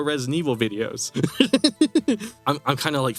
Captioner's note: laughs